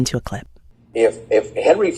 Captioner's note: soundbite of archived recording